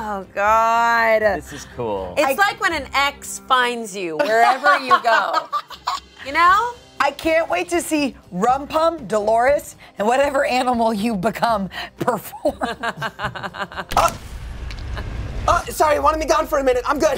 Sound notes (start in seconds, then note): 5.0 everyone laughs; 12.5 everyone laughs; 13.0 dramatic music